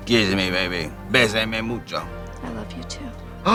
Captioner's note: speaking in foreign language